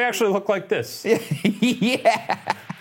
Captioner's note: laughs